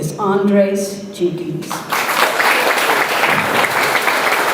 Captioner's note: audience applauds